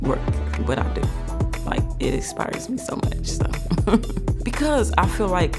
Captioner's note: chuckling